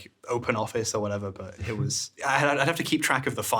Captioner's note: chuckling